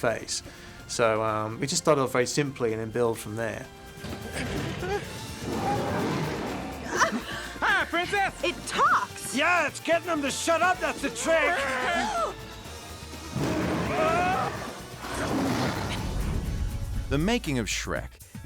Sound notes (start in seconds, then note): 4.9 dragon roaring; 6.9 Fiona moaning